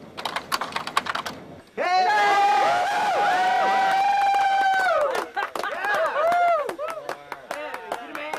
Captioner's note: WILD CHEERING clapping laughter